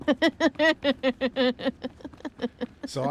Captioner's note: laughter